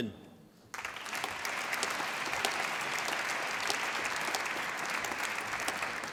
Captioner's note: applause